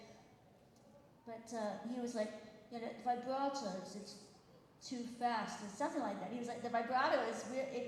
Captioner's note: British accent